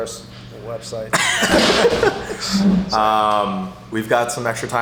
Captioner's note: laughter